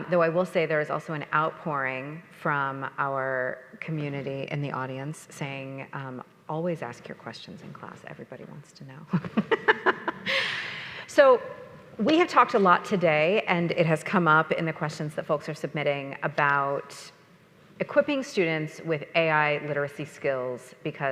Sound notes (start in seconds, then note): 9.2 laughs